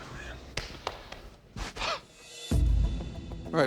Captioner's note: scoffs